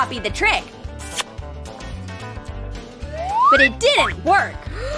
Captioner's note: kiss